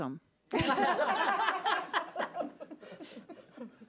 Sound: laughs

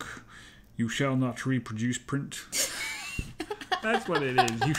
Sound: laughs

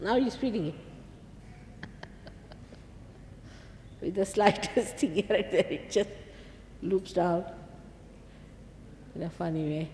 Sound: shri mataji laughs

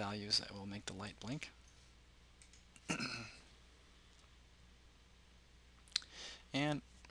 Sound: clears throat

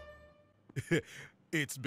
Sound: nervous laughter

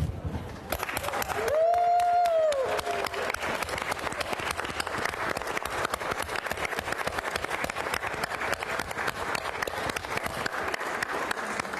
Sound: applause

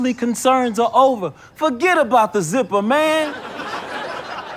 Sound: audience laughter

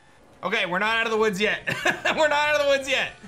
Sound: laughs

